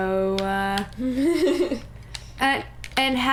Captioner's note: laughter